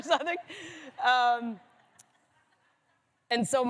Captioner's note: laughter